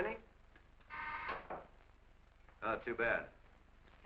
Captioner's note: phone buzzing